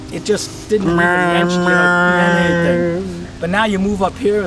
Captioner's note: imitates traffic